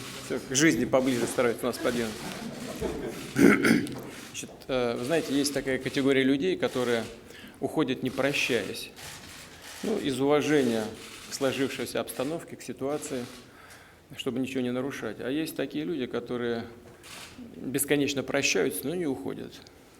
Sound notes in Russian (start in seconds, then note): 2.0 Смех